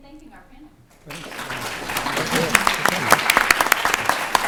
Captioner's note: applause